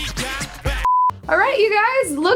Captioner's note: beep